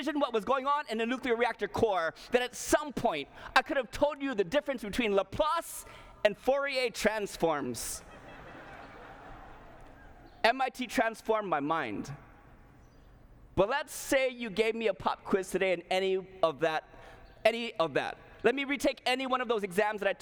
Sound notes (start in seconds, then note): 8.0 laughter